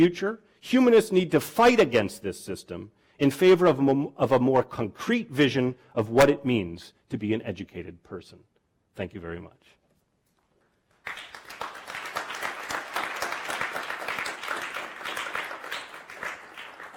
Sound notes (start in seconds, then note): 10.9 applause